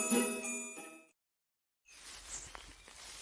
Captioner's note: birds chirping